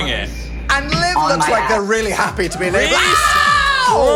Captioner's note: screams